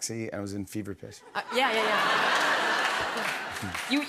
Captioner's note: laughter